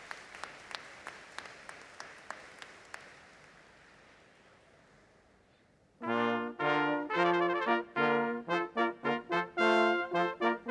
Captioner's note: applause